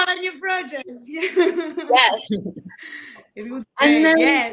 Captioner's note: laughs